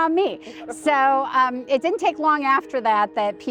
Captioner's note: laughs